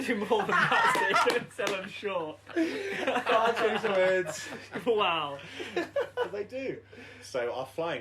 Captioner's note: laughter